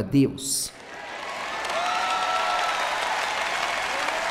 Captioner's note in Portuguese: audiência aplaude